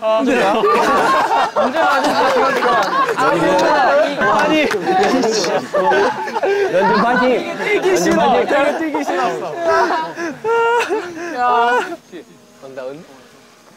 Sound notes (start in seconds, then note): 2.3 laughing; 4.2 cracking up